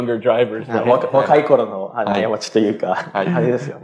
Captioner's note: speaking japanese